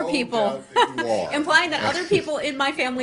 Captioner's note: laughter